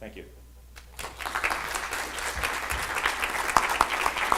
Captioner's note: audience applause